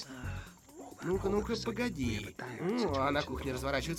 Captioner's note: groans